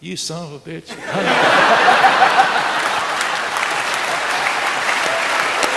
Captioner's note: audience laughing and applauding